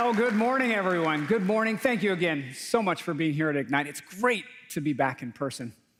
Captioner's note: applause